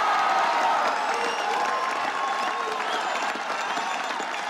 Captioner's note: crowd cheering and applauding